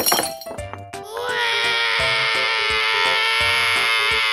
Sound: crashes; cries

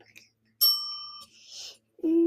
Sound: bell dings

